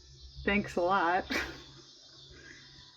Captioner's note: laughs